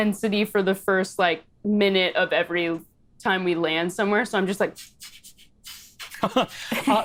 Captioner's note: sniffs